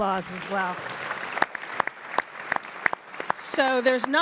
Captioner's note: audience applauds